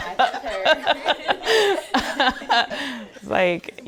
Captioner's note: women laughing humorously